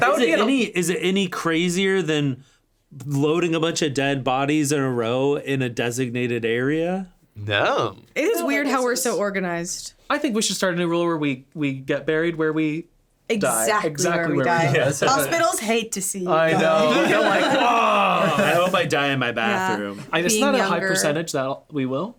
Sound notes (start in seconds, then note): 16.4 groaning